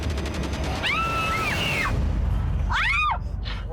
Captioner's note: screaming